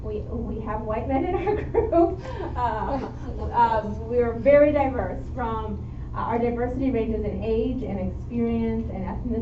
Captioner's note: chuckle